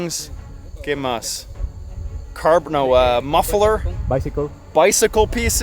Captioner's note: speaking Spanish